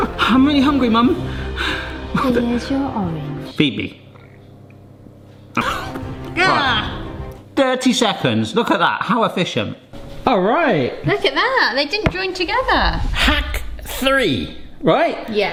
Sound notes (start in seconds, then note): 2.0 sighs; 5.6 chomps